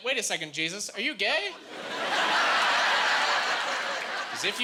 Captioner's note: laughing